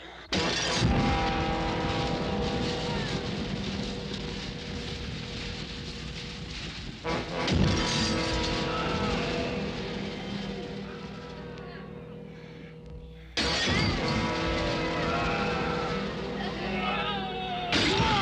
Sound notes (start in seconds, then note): 0.1 glass shattering; 1.8 fire crackling; 8.5 yelling